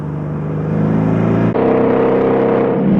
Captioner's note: engines roaring